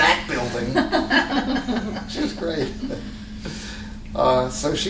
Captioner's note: laughter